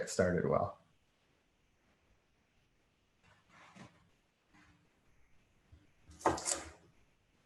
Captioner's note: silence